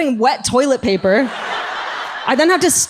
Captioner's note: audience laughs